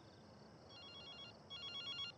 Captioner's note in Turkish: telefon çaliyor